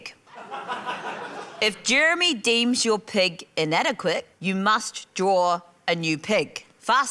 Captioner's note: laughter